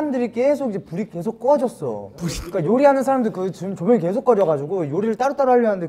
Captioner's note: laughs